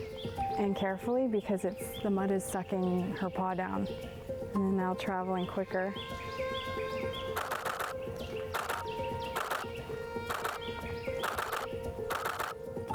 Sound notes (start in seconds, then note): 7.6 camera clicking; 10.1 mellow music